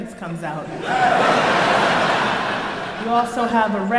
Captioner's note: crowd laughs